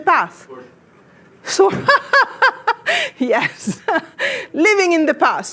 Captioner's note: laughs